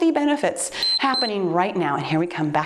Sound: timer beeps

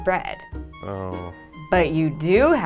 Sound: groans

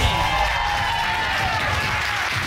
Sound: audience applauds, cheers

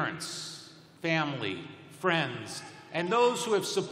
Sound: cheering

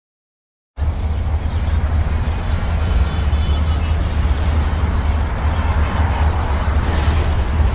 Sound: city sounds

